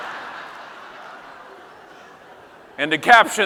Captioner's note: audience laughing